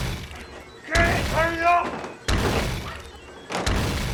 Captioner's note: thunderous crashes